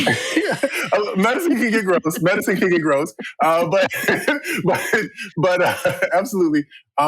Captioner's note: laughter